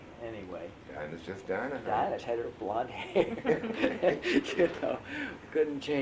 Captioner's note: laughter